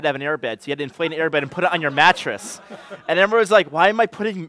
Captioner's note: laughter